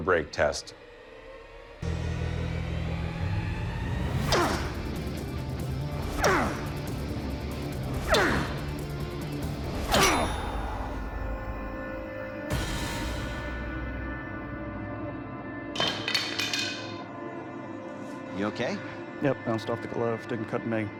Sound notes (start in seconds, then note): 0.3 suspenseful music playing; 3.7 loud grunting; 8.3 grunt; 8.3 sword clangs; 11.2 suspenseful music playing; 15.8 sword clattering